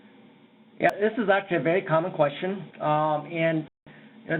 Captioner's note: voiceover